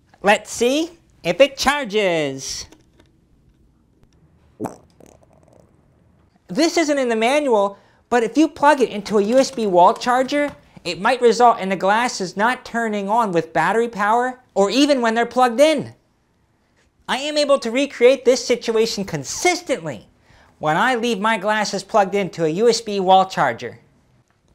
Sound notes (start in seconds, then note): 4.5 fart